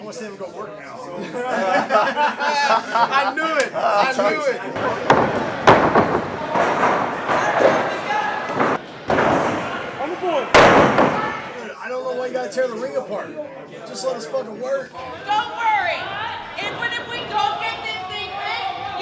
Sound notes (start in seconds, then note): 1.1 laughing; 4.8 thumping